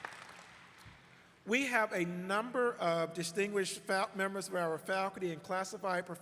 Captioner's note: applause